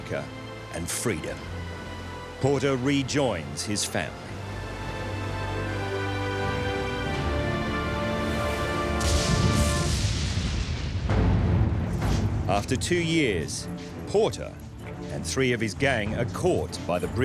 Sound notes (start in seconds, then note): 9.1 lighting bursts